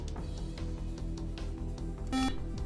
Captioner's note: beep